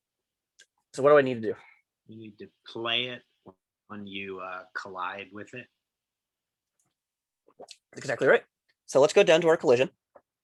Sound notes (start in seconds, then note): 2.5 bold Voice